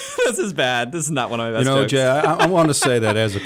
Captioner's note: laughs